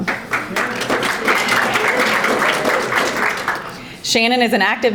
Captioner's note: audience applauding